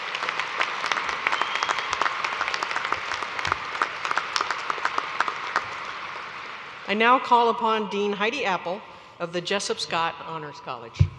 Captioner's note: applause